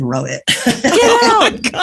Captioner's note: laughs